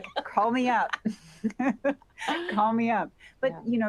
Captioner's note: laughter